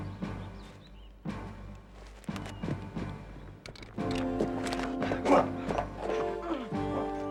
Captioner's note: groaning